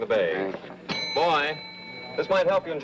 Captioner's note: rings call bell